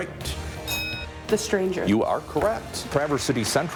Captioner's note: bell dings